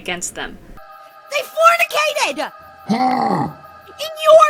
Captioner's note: grunt